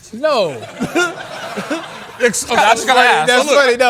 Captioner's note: laughter